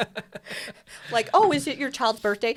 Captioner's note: laughs